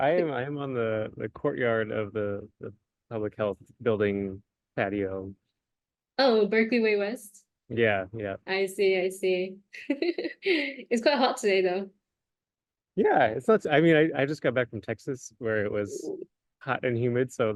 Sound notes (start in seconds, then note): 9.6 laughs